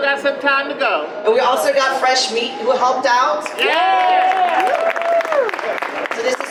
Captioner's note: audience applause